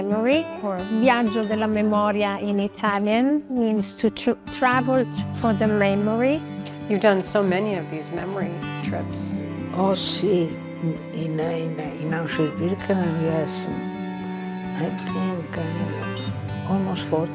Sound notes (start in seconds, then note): 9.4 speaking in foreign language